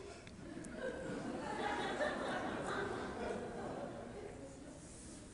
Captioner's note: audience laughing